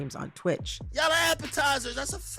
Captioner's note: soundbite of archived recording